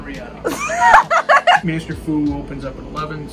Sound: laughs

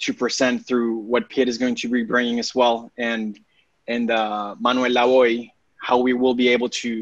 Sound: speaking spanish

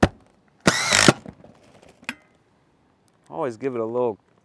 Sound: power tool whirring

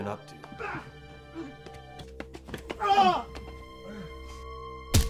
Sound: fighting impacts and yelling

